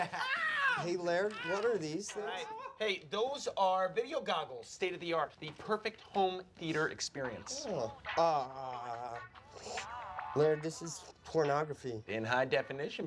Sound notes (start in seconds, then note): 3.1 laughs